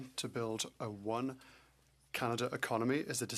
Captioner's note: speaking French